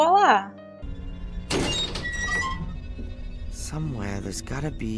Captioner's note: metal door opening